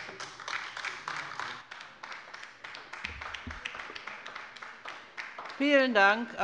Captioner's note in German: Beifall bei der LINKEN